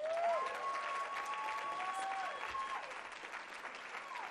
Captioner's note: cheering and applause